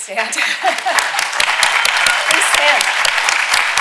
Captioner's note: audience applauding